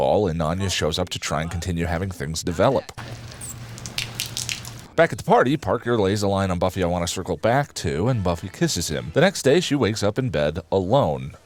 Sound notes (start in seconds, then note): 3.0 induendo juice noises